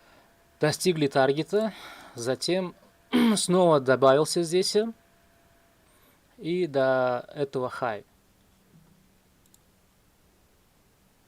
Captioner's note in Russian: вздыхает